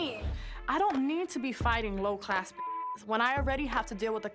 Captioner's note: beep